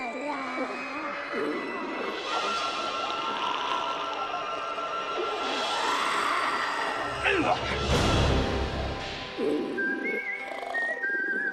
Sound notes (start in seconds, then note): 3.3 zombies growling